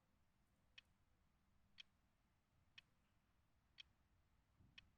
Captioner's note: clock ticking continues